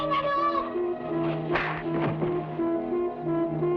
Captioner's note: boy shouting in Tagalog; hand smacks; suspenseful music